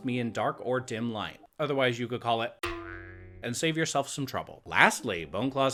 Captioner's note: boing